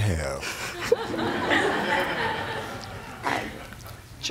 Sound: laughter

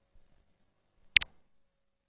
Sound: 128-bit click

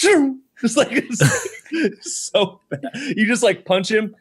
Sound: laughing

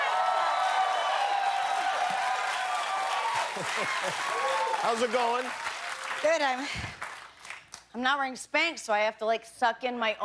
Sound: cheers and applause

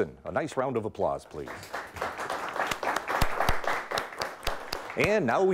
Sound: audience clapping

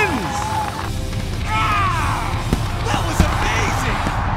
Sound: roars

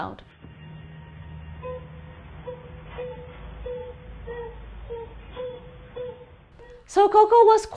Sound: Koko crying

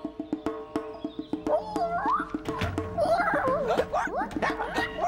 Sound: creature squeaking; patrons start hiccuping, one by one

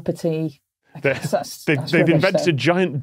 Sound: chuckles

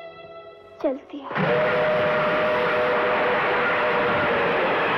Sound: train Running Sound

